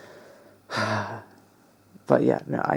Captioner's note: sigh